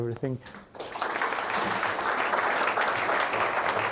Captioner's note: applause